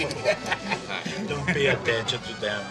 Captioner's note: laughs